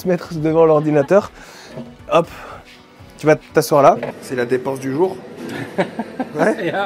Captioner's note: laughs